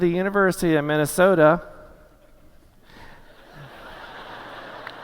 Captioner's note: laughter